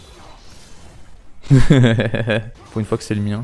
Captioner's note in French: Rire